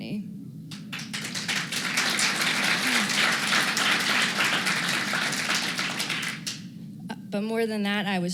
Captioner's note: applause